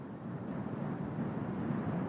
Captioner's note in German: Brausen des Windes